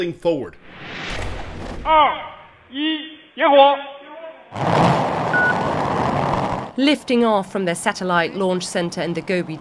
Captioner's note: voice-over